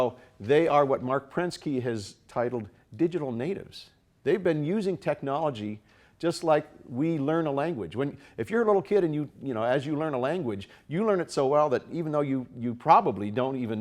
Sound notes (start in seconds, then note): none